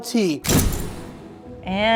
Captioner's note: video booming